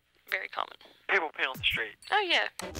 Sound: man over phone

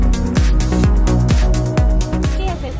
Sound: speaking Spanish

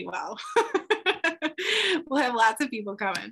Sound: laughs

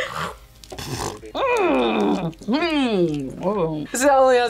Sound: grunts

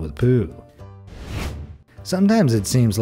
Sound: air whooshing

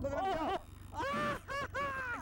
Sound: laughter

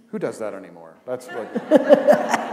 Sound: laughter

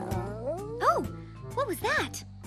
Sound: growling

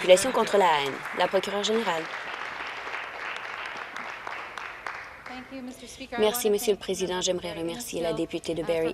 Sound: applause

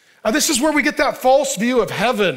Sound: none

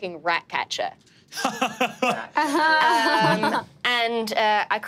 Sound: laughing

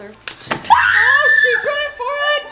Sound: screams

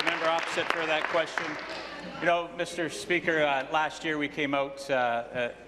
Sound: applause

